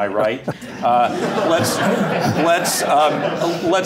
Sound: laughter

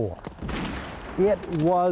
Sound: gun firing

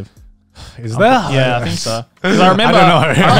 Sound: laughing

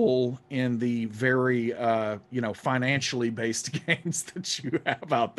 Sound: laughing

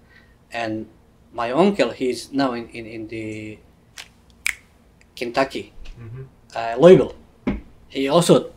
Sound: snaps fingers

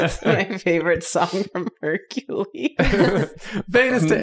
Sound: laughter

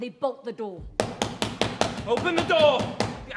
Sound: angry knocking

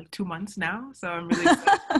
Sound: laugh

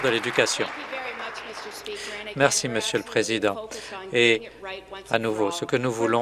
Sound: applause

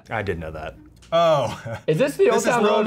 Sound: chuckles

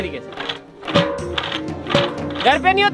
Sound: churning

